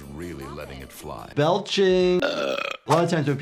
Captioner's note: Homer belching